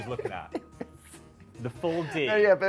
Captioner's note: laughs